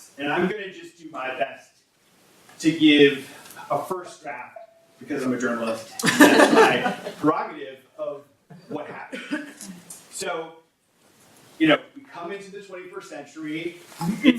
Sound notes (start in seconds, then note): 5.9 audience laugh